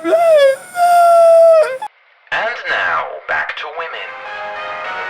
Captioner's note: moaning noises